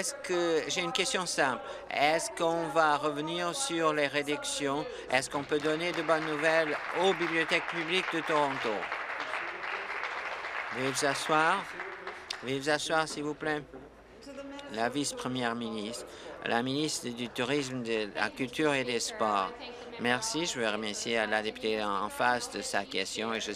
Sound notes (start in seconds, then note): 8.9 applause